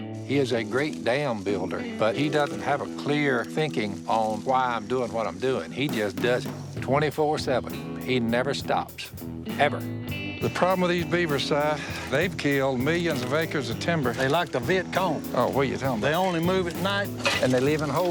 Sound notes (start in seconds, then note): none